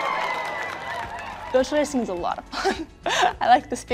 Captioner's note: audience cheers and applauds; laughs